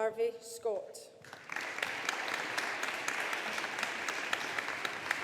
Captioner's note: audience applauding